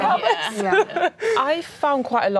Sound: laughing

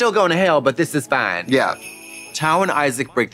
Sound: sleigh bells jingling

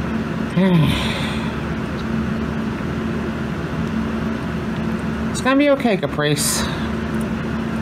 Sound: sighs

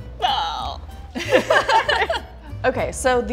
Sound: both laughing

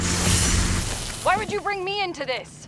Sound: wasp buzz; electrical surge

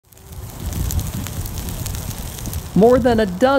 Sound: fire crackling

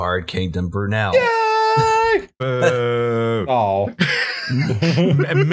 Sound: weirdly high-pitched; laughter

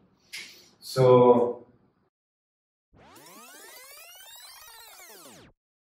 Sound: fast forward buzzing

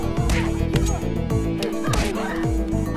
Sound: women grunting; thudding

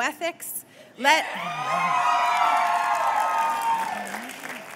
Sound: cheers

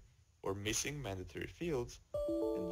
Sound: chime

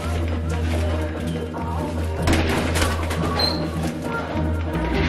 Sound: basketball shooting

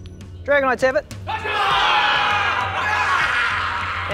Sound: celebratory shouts

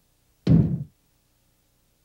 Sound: thud

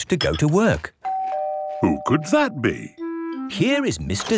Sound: doorbell ringing

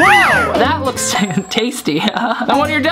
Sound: chuckles

